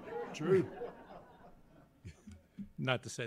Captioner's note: laughter